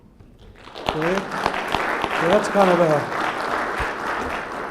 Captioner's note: applause